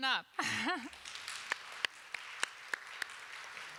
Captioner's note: applause